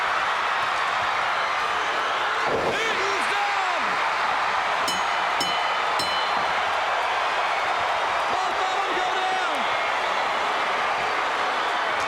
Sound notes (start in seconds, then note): 0.1 crowd cheers; 4.8 bell dings